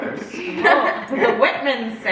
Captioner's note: kids laugh